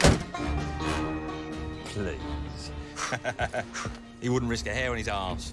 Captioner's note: laughs